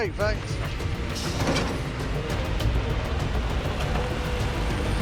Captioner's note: machinery whirring